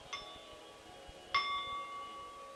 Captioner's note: bell sound